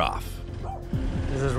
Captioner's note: dog barks